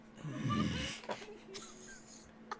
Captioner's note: giggling